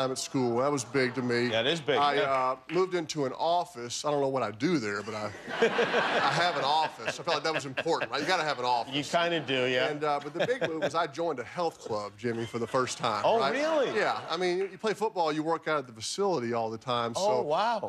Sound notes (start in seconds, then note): 13.0 laughter